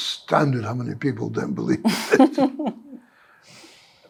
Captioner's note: laughter